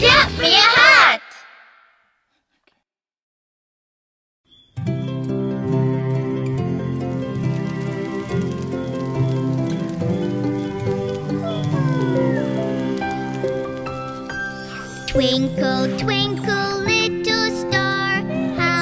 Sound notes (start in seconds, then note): 11.6 yawning